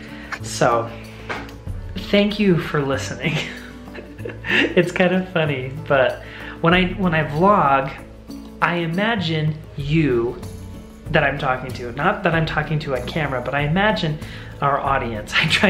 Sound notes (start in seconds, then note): 3.2 laughs